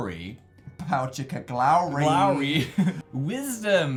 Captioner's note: in an accent